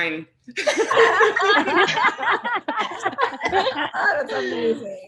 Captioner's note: panelists laughing